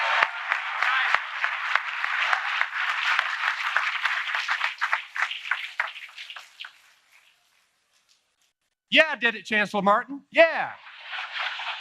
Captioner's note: applause